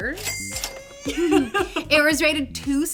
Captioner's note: laughs